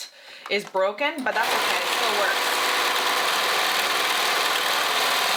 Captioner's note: sewing machine whirring